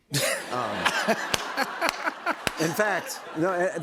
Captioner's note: laughter